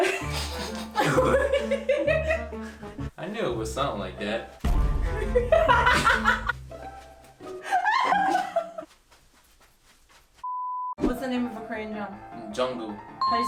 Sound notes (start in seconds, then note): 0.0 both laugh; 0.0 comical music; 5.1 laughs loudly; 5.3 comical music